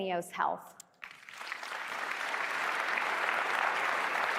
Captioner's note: applause